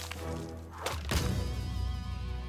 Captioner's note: stomp